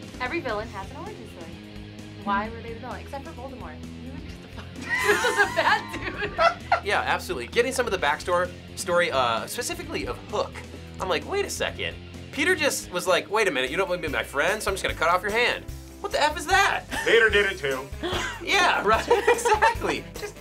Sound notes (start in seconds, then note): 4.4 both laughs